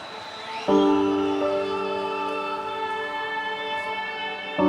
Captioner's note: applause